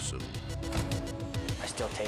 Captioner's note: body thuds